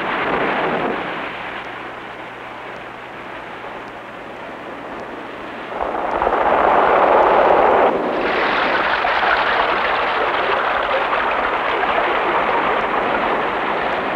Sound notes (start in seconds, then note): 4.2 roaring surf